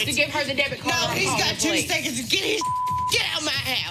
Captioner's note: beep